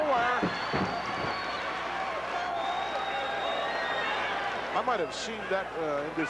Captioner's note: applause